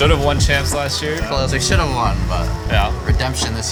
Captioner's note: crashies